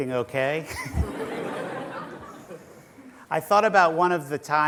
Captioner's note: laughter